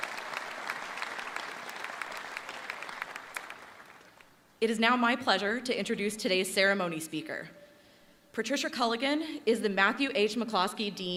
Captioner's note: applause